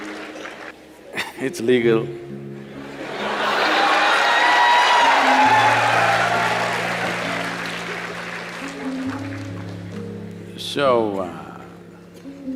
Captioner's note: laughter/Applause; laughs; cheers/Laughter